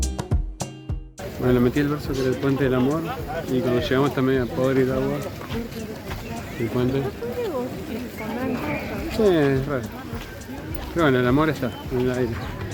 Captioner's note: laughs